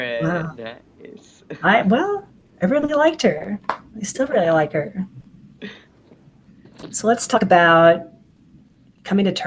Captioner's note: laughing